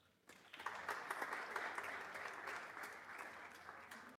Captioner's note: audience applauds